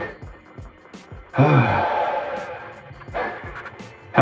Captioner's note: heavy sigh